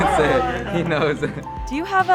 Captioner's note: laughing